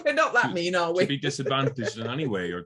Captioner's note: laughs